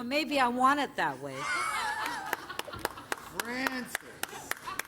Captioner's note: laughter; laughter